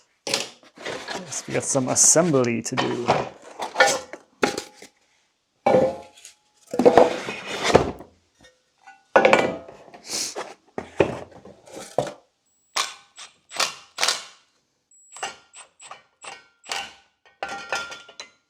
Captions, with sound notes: We got some assembly to do. (metal clanks) (drill whirs)